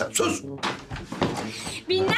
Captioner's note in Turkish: Kapı açılma sesi